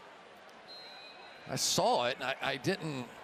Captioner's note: whistle